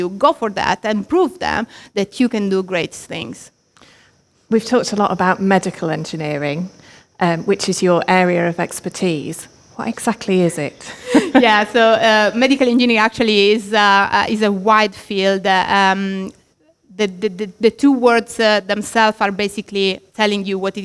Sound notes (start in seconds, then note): 10.8 both laughs